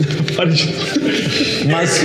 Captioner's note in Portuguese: risos